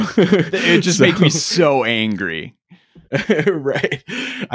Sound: chuckles

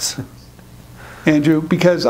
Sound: laughing

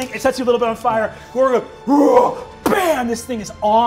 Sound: roars

